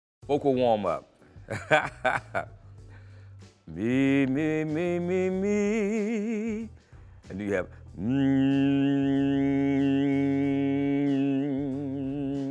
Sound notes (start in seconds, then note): 1.5 laughs; 9.0 makes ohm noise in throat